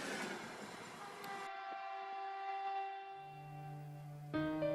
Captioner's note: train Honking; tense Music Playing